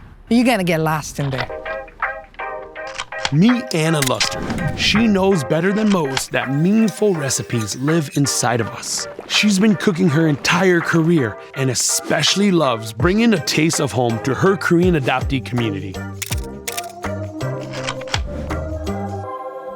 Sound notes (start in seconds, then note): 1.4 bright music; 16.2 camera clicking